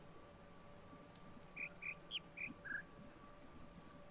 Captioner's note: bird chirps five notes